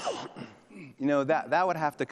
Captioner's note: attendee sneezes